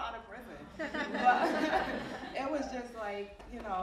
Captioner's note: audience laughing